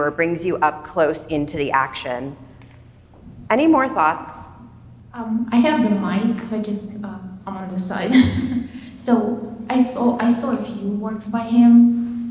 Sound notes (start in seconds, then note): 8.1 chuckles